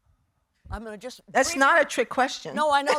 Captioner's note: laughing